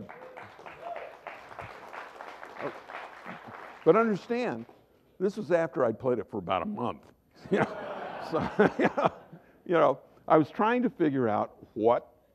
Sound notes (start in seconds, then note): 0.0 applause; 7.4 laughter